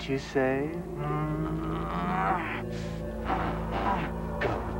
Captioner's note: groaning